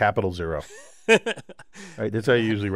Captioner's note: laugh